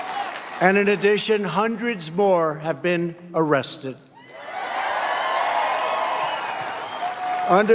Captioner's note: cheers and applause